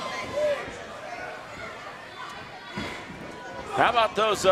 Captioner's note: crowd yelling